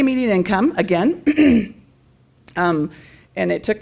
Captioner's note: clears throat